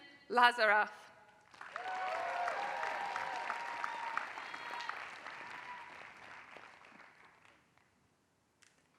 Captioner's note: applause